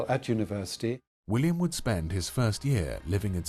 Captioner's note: voiceover